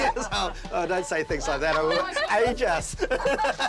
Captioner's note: laughter